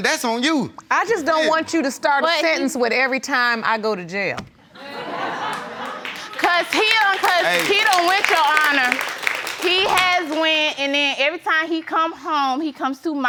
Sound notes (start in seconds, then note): 4.8 audience laughing; 5.4 audience applauding